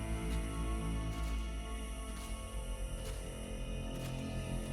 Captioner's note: footsteps crunch